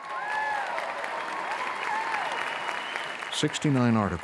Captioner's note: cheers and applause